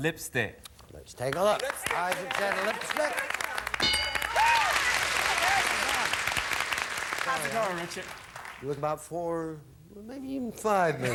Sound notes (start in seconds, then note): 4.8 audience applauding